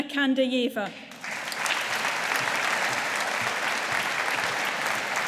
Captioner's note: audience applauding